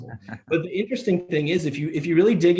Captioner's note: laughs